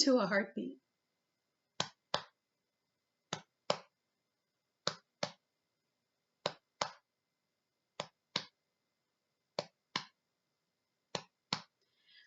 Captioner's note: tapping chest like a heart beat